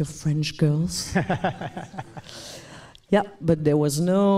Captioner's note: laughs